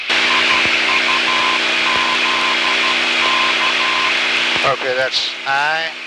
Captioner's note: beeping in code